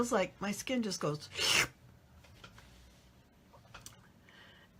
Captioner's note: woman slurps